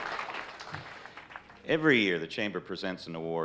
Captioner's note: on microphone